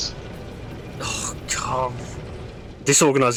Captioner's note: scoffs